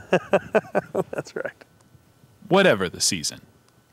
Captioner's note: laughs